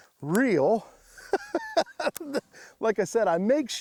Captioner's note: laughs